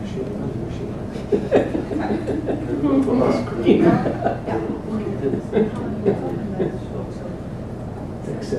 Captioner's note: laugh